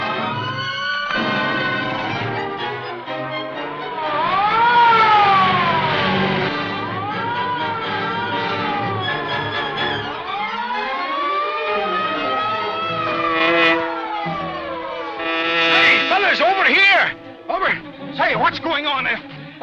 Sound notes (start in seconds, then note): 1.0 sirens wailing; 14.8 hornet buzzing